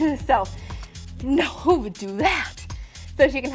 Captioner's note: exclaims with disbelief